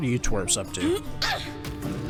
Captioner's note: grunts